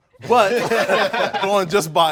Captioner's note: all laughing